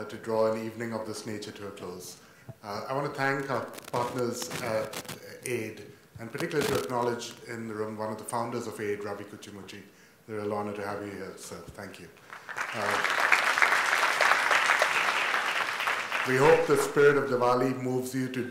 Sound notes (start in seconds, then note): 12.2 audience applauds